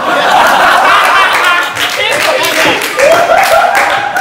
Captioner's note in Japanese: 爆笑